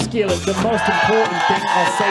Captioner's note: audience cheers